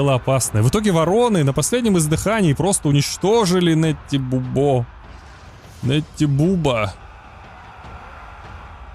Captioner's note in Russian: крик